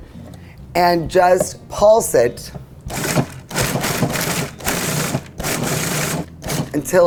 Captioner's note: processor motor whirring